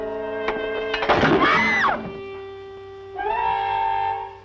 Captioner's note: scream